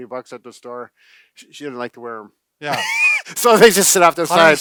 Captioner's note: laughs